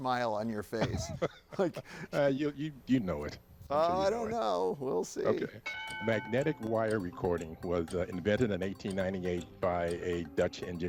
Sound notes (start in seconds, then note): 0.7 laughs; 5.6 bell dings